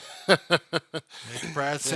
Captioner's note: laughing